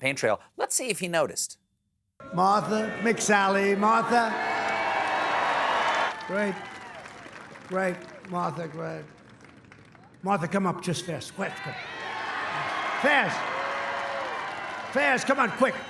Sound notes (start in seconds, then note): 4.6 cheers